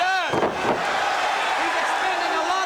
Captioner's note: crowd cheering